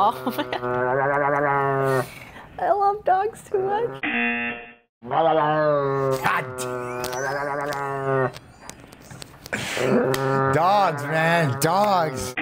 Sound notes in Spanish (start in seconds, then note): 0.1 risas; 4.0 zumbador; 5.1 gruñido del perro distorsionado; 6.6 risas